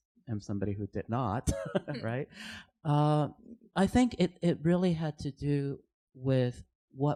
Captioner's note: laughs